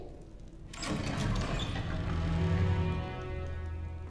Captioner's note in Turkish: Kapı açılma sesi